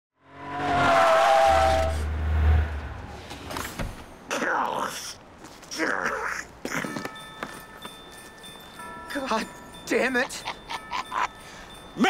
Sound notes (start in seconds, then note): 0.2 tires squealing; 6.8 christmas music